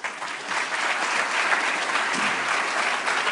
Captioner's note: applause